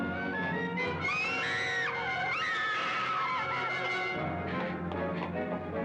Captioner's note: Sheila screaming